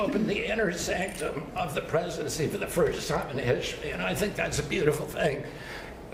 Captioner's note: laughter